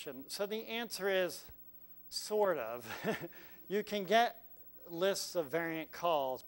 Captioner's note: laugh